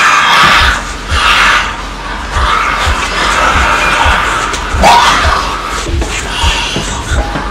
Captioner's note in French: Le monstre hurle; Cris et hurlements